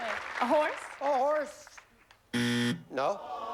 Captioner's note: buzzer